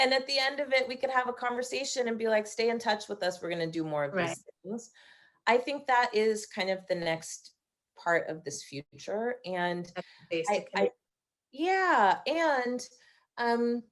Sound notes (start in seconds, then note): none